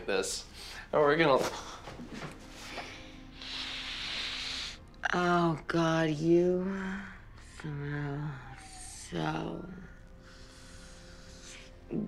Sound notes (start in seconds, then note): 5.1 sniffing